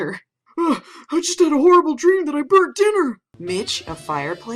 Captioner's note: gasps